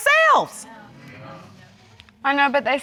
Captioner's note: audience agreeing